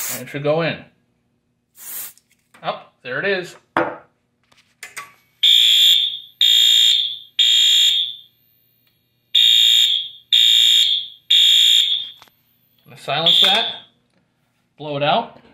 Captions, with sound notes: It should go in. Whup, there it is! [High-pitched temporal horn] Silence that, blow it out.